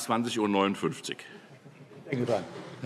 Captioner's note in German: Heiterkeit